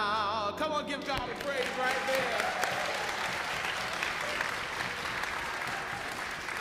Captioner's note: congregation applauds